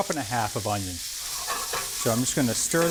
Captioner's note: skillet sizzles